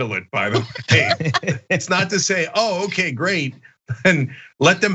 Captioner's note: laugh